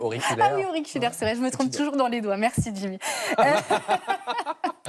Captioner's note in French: rires